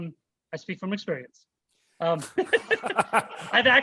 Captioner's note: laughter